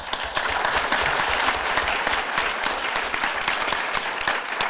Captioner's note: audience applause